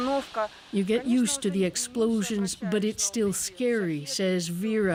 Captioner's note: speaking alternate language